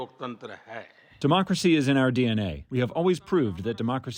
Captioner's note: through translator